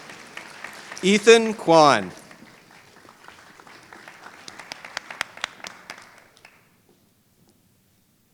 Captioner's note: applause